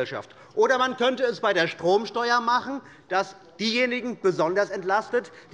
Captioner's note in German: none